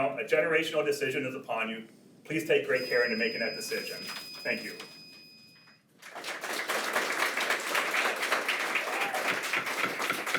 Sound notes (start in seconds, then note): 5.4 timer beeps; 6.0 attendees applaud